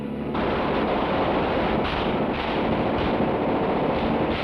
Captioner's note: gun firing